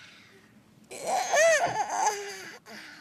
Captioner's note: yawns